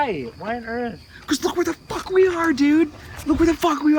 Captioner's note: voiceover